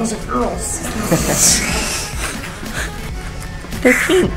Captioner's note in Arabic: يضحك